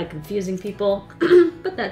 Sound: clears throat loudly

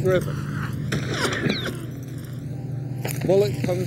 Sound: guns firing

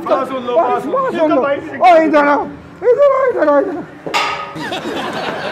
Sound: indistinctive chatting

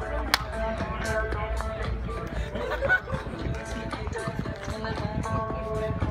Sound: clapping and music

